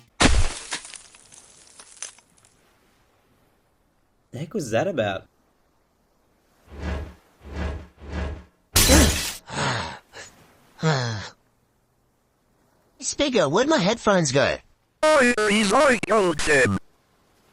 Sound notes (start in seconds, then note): 0.2 shattering sound; 6.6 heavy movement-like sound; 6.6 heavy movement-like sound 3: heavy movement’s revenge; 8.7 heavy, shatter-like sound; 9.4 Pot Plant breathes heavily